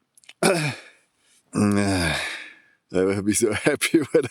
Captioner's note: sigh